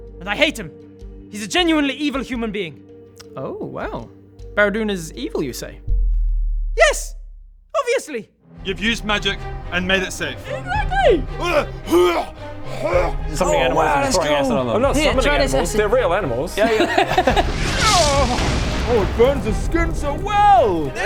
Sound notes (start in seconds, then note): 11.3 hrrrgh!; 11.3 hrrgh hrrgggh!